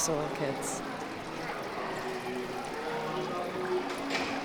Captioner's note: ambient sound of water trickling through rockwork and gentle music playing